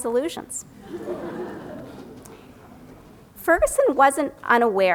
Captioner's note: audience laughs